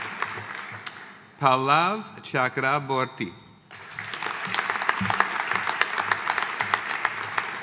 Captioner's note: audience applauding